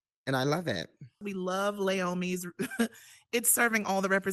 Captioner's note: chuckles